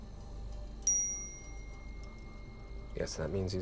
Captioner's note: cell phone chimes